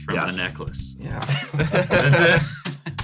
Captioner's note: laughs